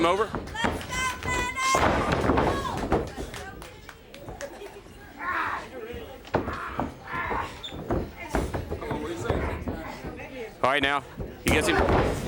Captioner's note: crowd chatter